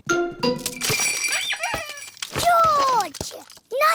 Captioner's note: bells ring and toys squeak